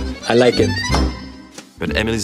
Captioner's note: desk bangs